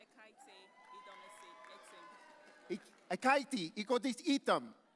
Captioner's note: audience cheering